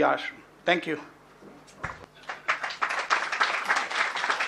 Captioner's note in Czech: potlesk